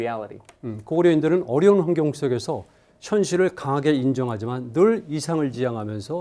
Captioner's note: speaking in Korean